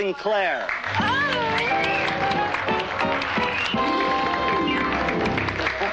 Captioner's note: applause